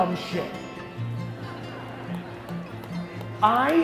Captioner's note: crowd laughter